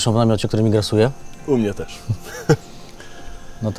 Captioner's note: laughing